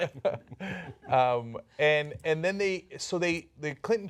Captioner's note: laughter